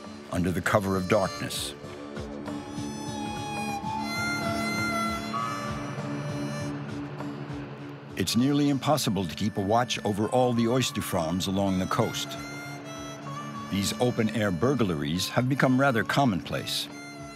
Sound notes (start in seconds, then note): 2.7 mysterious music; 5.8 tractor rumbling